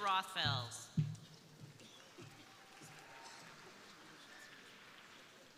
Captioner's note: crowd applauding